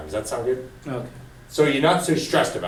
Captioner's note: voiceover